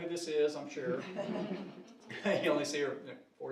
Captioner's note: audience laughing